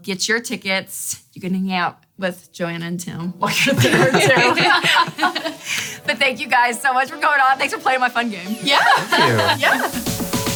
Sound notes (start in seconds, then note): 3.6 all laughing